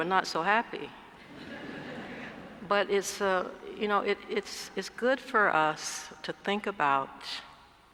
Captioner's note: laugh